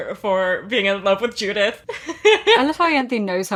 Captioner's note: laughs